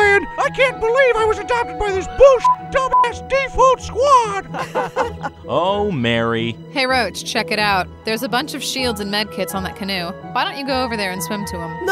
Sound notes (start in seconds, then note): 2.4 beep; 4.4 team laughing